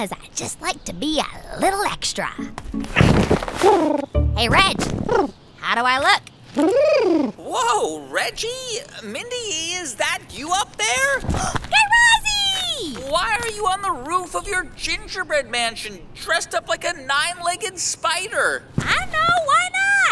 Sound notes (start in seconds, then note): 2.7 costume rustles; 7.2 shouting from down below